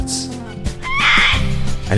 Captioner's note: squawk